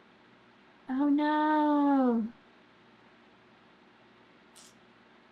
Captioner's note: sucks teeth